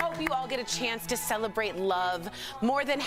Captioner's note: applause